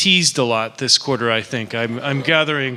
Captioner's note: laughter